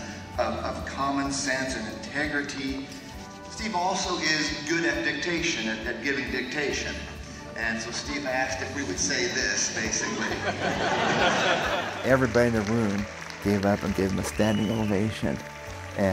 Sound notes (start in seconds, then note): 9.8 audience laughs